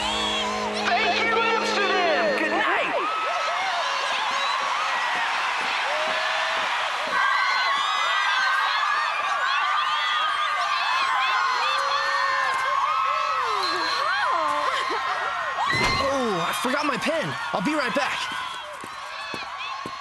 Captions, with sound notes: -Thank you, Amsterdam! Good night! [cheering and screaming] -Oh, I forgot my pen. I'll be right back.